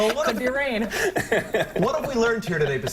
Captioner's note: laughter